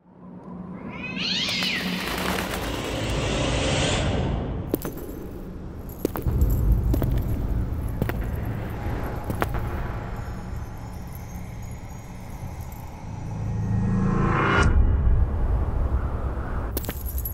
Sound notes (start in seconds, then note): 0.8 cat meow; 4.7 footsteps